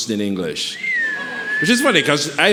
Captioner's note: whistles